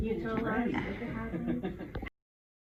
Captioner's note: laughing